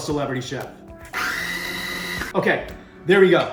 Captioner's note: food processor runs